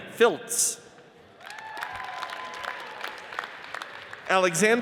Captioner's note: audience cheers and applauds